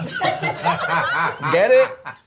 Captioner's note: all laugh